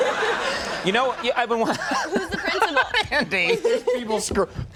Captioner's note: audience laughs; laughs